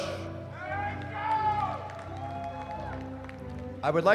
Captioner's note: cheering